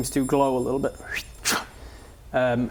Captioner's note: swipe!